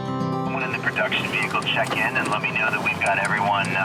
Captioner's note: radio